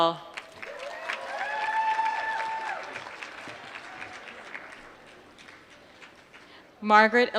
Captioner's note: applause